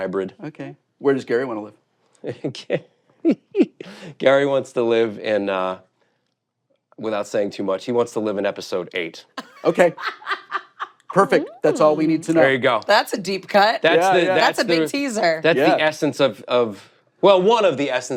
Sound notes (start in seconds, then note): 3.2 chuckles; 9.4 laughs